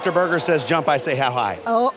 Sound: cheers and applause

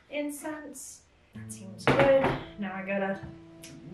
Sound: bowl thuds

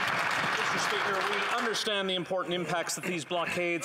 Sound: applause

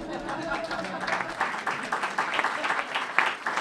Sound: applause

